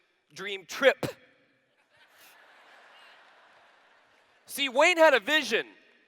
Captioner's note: laughter